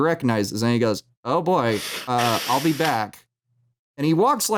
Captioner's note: loud anticipatory breath